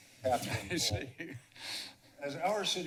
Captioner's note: laughter